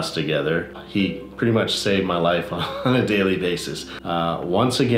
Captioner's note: laughs